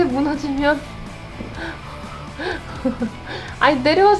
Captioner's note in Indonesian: tertawa